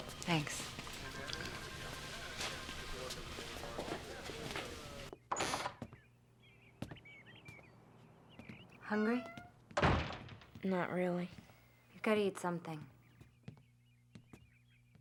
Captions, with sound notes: Thanks. (door opening) Hungry? - Not really. - Gotta eat something.